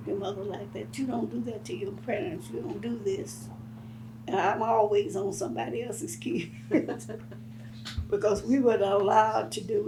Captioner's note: laughs